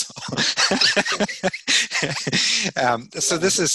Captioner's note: laughing